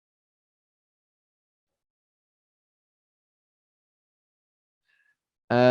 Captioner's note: silence